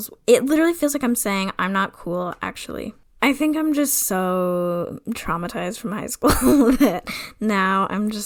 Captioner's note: laughs